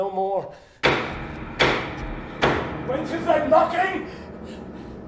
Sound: knocking

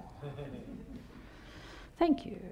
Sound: audience laughing

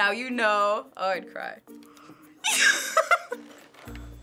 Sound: gasps and laughs

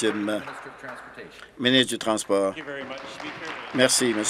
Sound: applause

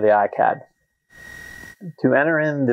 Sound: high pitched hum

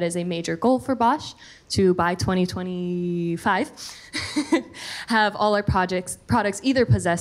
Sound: chuckles

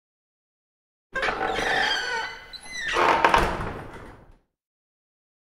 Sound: sound of toilet door

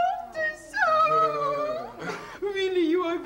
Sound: laughing

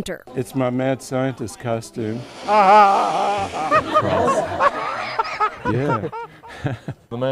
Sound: laughing

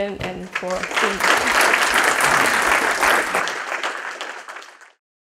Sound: applause

